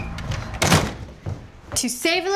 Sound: door shuts

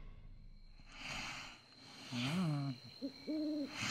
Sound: crickets Chirping; pigs Sleeping; owl Hooting

